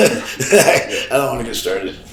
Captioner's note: Sabu chuckles